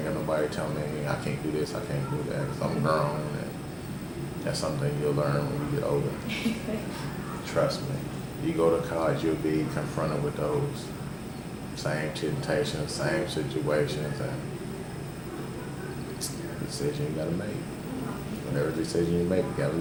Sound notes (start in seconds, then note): 6.2 laughs